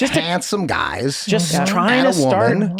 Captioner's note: Charlie hums in agreement